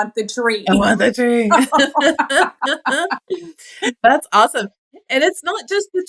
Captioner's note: laugh